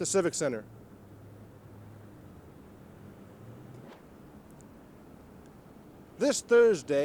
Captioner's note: street noise